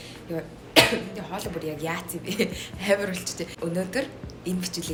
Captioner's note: clearing the throat